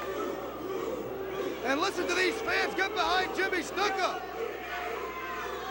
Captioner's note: crowd chatter